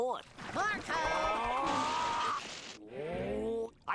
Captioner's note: screaming